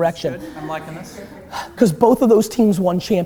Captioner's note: laughter